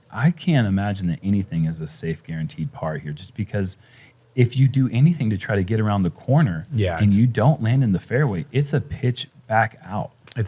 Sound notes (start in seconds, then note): none